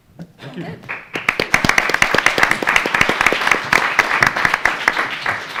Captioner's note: attendees applauding